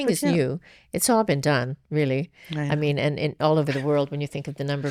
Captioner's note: laughs